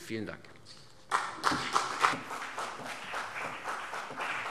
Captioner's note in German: Beifall CDU und BÜNDNIS 90/DIE GRÜNEN